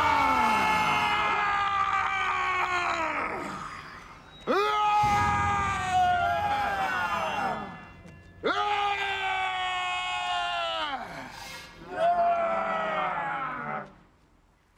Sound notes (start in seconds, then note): 0.1 all yelling; 4.9 yells; 6.0 all yelling; 8.2 yells; 12.6 all yelling halfheartedly